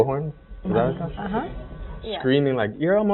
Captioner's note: murmuring